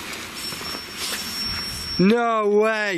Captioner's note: alarm ringing